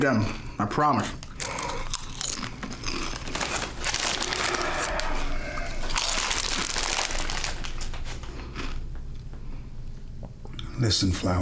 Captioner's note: crunching